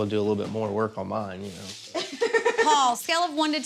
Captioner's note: laughs